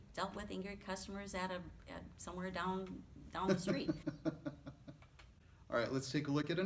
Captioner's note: chuckles